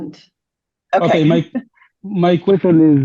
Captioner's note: laughs